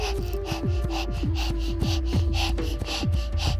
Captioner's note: heavy breathing